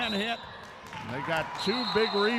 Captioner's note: referee whistling